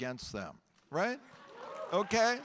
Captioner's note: audience applauding and cheering